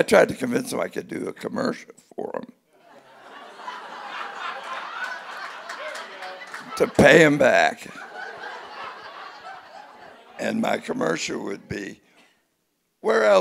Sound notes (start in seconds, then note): 2.8 audience laughing